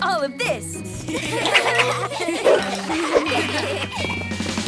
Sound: laughing

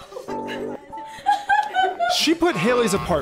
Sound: laughs

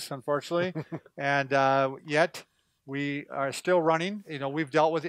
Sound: laughs

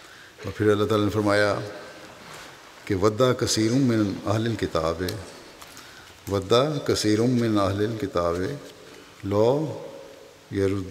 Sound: Arabic

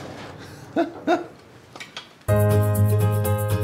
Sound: laughs; upbeat music

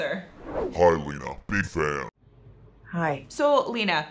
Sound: deep Altered Voice

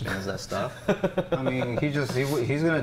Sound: laughing

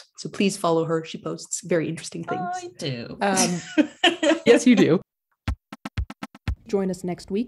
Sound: laughter

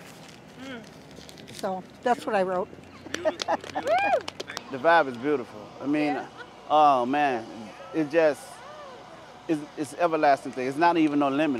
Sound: laughs

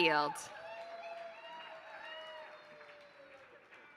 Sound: applause

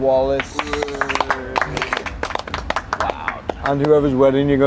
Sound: everyone applauds

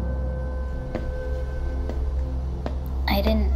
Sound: footsteps

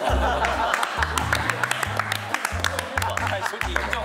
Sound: laughing

